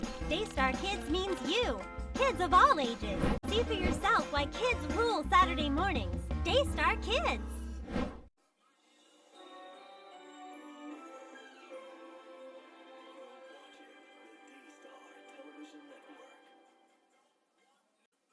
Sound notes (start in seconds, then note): 8.9 music playing on tv; 13.9 on TV